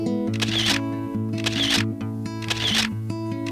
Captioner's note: camera shutter activates; camera shutter activates